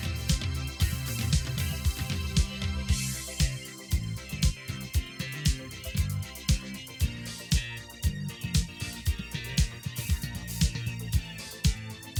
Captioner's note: applause